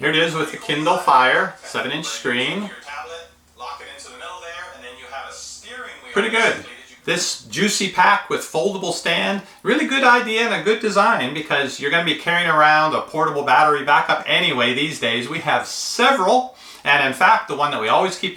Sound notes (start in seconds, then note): 2.6 voiceover